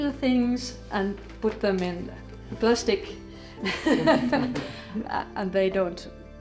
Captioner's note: laughing